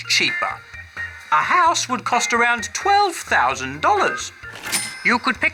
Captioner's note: cash register chimes